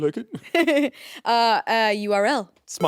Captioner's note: chuckling